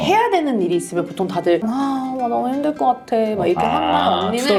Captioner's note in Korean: 구시렁